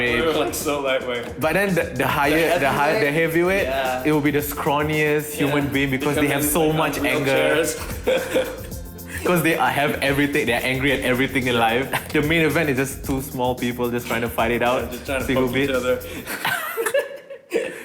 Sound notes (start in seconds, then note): 8.8 laughs; 16.1 both laugh